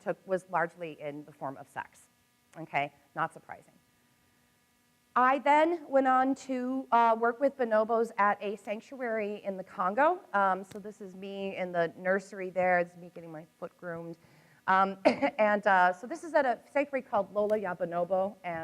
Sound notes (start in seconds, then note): 15.0 coughs